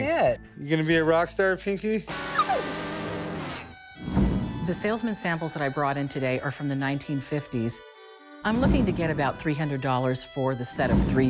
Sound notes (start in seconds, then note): 2.3 dog whimpers